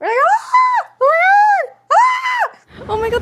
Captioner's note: screams